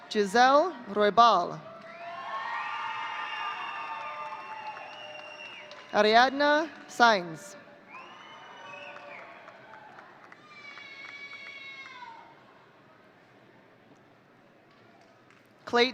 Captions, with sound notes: Giselle Roibal. (audience cheering) Arianna Signs. (audience cheering)